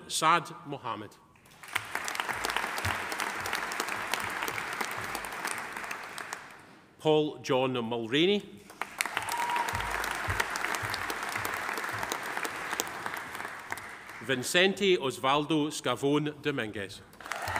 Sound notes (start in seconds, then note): 1.4 audience applauding; 8.7 audience applauding; 9.0 audience cheering; 17.2 audience applauding; 17.2 audience cheering